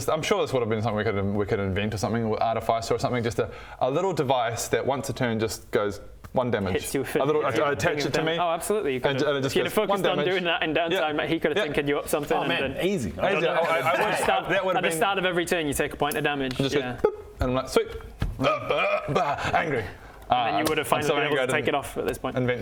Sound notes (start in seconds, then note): 17.0 boop